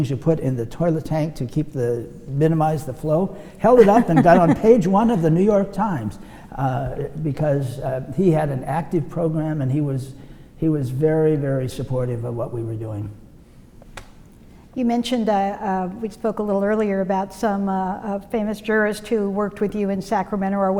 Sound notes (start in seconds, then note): 3.7 laughs